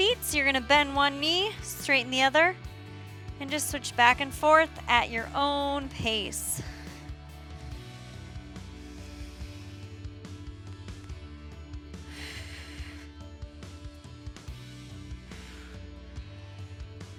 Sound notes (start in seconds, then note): 7.1 upbeat music continues; 12.0 exhales